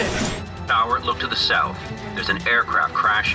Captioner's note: computerized Voice